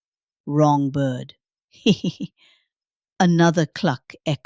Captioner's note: giggles